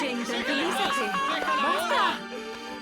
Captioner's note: angry shouting